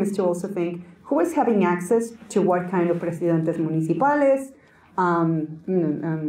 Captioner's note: Spanish